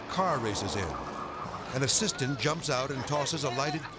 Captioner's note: friends chattering